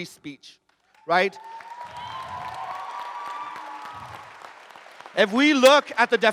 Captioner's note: audience cheers and applauds